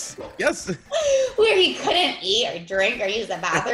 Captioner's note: laugh